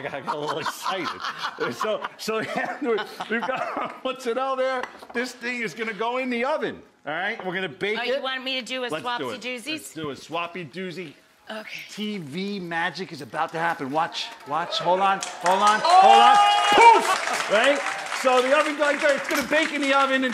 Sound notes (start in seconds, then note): 16.1 audience cheering